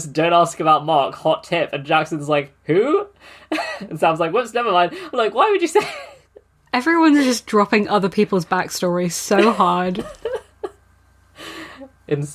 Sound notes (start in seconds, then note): 3.3 laughing